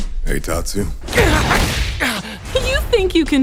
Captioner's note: crashing